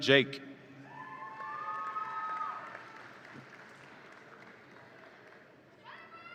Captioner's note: audience applauds and cheers